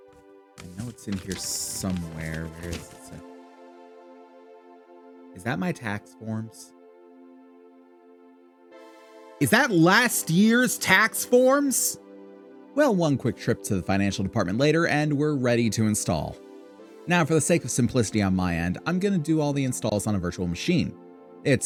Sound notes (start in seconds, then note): 0.5 papers rustling; 3.5 rustling stops